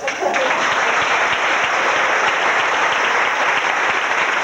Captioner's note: crowd Cheers